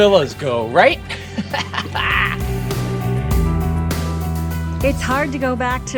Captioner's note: chuckles